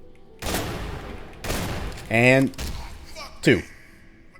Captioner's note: boom; whack